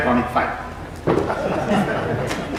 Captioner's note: laughter